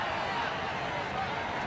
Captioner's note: crowd cheering